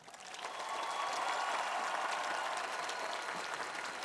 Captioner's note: cheering